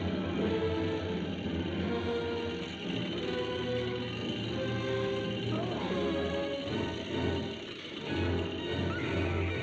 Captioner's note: krzyk